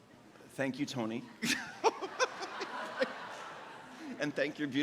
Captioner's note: laughs; audience laughs